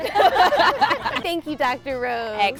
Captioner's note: laughter